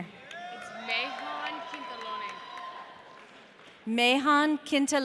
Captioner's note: audience cheering